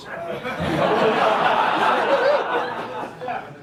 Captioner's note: laughter